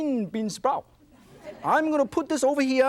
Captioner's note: audience laughs